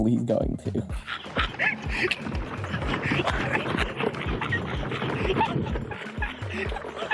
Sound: Ethan quietly laughing; car rattling

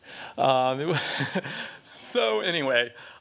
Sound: laughter

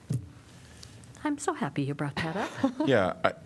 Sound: laughter

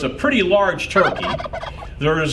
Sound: gobbling

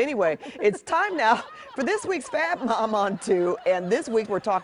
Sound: laughter

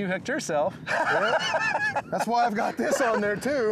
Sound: laughing

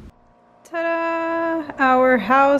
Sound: faint buzzing

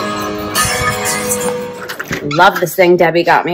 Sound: door opening

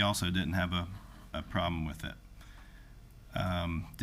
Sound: none

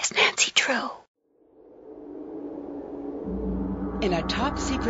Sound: wind whistling

